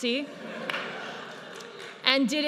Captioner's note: audience laughs